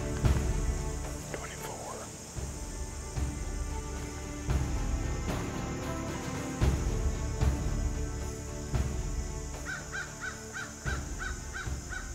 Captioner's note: whispering; whispering